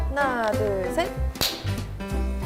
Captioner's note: ★Clap★